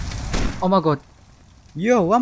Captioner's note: gunshot